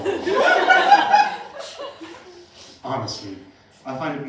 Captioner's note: laughter